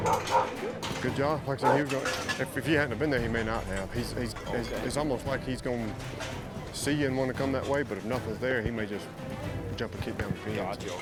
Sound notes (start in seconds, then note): 0.0 dog barking